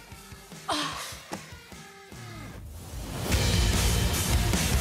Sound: groans

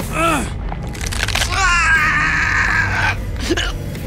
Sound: groaning; grunting; groaning

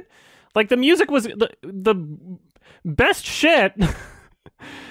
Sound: chuckles

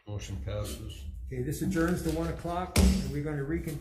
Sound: gavel thudding

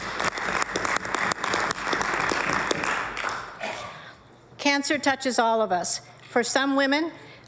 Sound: applause

